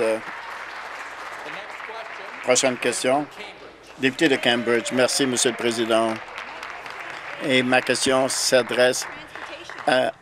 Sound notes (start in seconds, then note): 3.8 some Applause